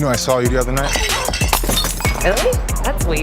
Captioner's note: glass shatters